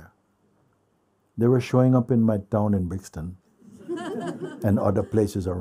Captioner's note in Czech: smích